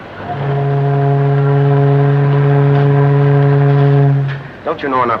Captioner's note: ship horn